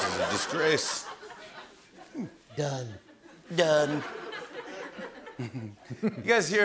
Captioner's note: As Trump